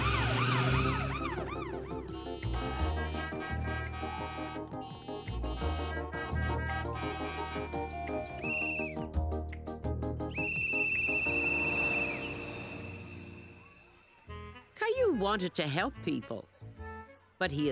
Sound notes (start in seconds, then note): 7.3 siren; 8.6 all honking